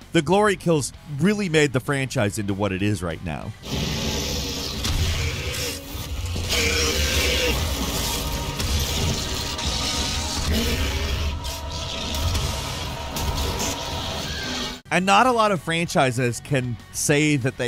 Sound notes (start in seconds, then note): 4.2 monster growling; 12.4 gun banging